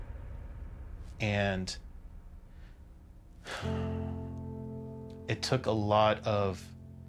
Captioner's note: sighs